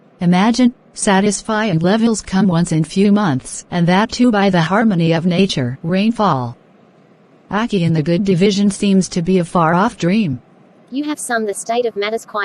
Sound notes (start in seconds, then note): 6.5 rainfall